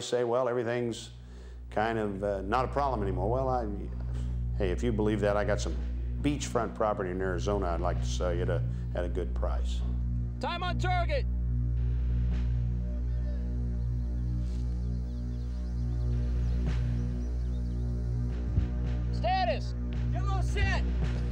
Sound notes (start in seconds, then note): 12.9 voiceover; 20.2 voiceover